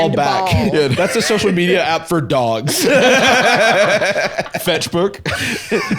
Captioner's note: all laughing